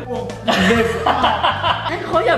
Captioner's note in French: rire